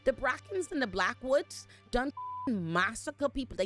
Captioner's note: beep